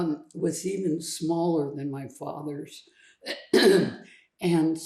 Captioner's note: cleats throat